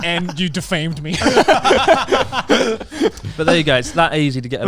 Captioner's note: laughs loudly